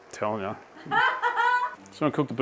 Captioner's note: laughing